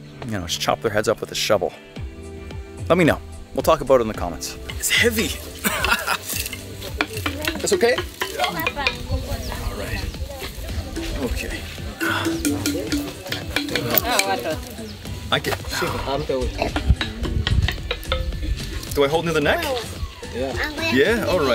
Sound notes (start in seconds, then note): 5.6 laughs; 14.3 tribe member speaks in foreign language